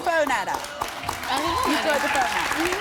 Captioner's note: applause